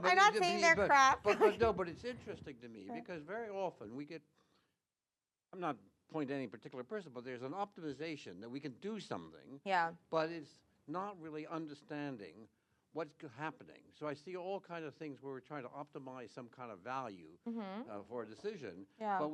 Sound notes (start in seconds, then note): 1.2 chuckles